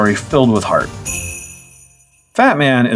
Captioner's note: sleigh bells